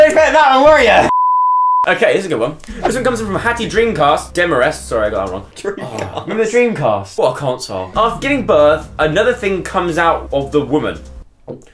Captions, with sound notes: You weren't expecting that one were ya Okay, this is a good one This one comes in from Hattie Dreamcast... Demarest, sorry I got that wrong Dreamcast? *laughs* Ahhh, remember dreamcast What a console